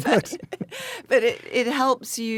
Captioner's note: Anna laughs